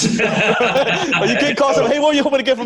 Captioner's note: both laugh